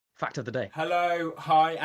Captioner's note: voiceover